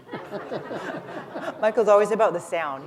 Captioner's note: laughter